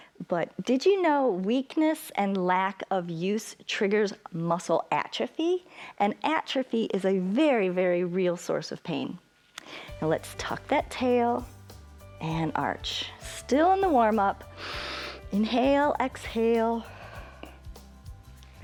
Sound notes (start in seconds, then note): 14.4 exhales; 14.5 inhales